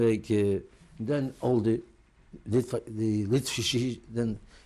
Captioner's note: non-english